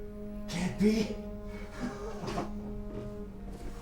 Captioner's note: laughs